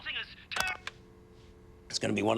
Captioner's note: line disconnects